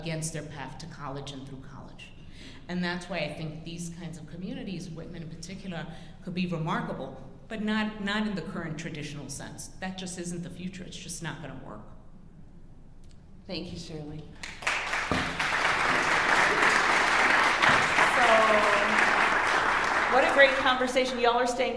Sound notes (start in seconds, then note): 14.4 audience applauding